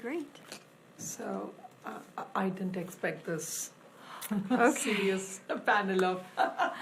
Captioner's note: laughs